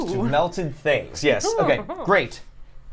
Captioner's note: Safiya makes excited noises